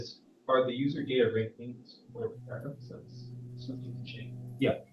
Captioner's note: speaks faintly